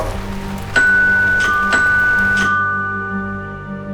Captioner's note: bell